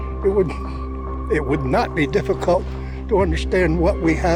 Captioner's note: scoffs